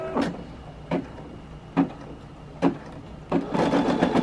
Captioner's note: machine noises